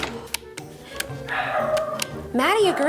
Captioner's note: dog barks in distance; clicks buttons